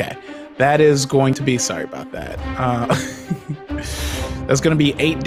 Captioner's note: chuckles